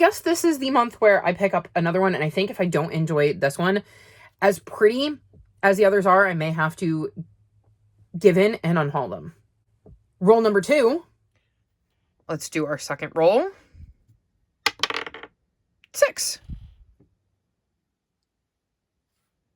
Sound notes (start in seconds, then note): 14.6 sound of dye landing on the desk